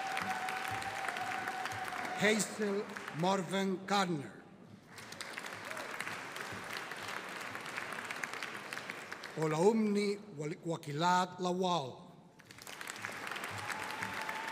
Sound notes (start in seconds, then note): 4.7 audience applauding; 12.4 audience applauding